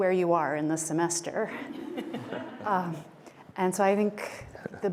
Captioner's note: laughter